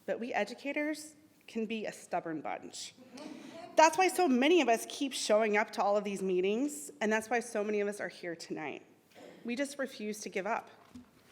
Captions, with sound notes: but we educators can be a stubborn bunch. (scattered laughter) That's why so many of us keep showing up to all of these meetings, and that's why so many of us are here tonight. We just refuse to give up.